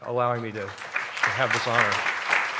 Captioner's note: applause